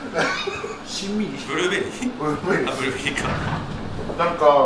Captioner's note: laughs